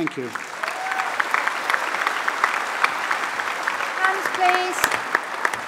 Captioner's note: applause